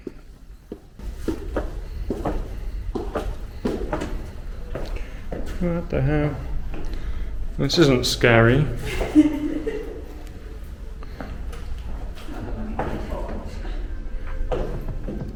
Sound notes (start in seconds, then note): 8.7 laughs